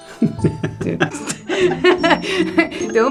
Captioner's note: laugh